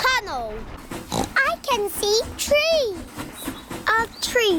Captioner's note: oinks